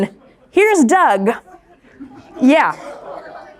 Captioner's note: crowd laughing